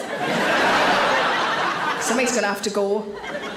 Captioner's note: audience laughs